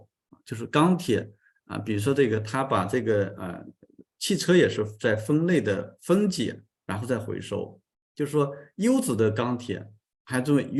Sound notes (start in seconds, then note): 3.3 continues to speak in Chinese